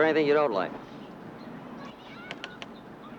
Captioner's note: birds tweeting; children playing